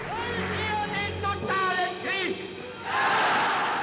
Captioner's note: speaking German